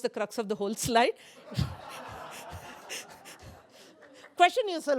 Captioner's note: laughter